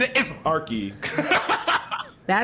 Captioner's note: laughing